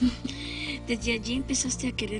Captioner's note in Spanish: Risas